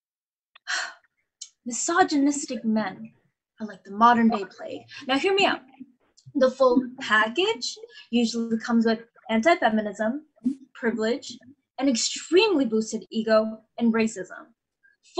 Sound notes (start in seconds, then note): 0.7 sighs